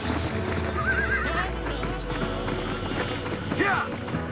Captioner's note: zombie-wolf cries; zombie-wolf cries